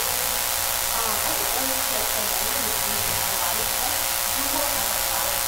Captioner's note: buzzing drowns out speaker